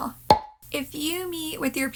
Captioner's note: pop